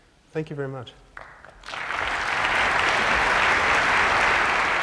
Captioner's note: applause